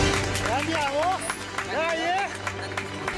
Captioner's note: non-english speech